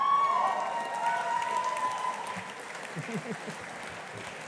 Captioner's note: audience applauding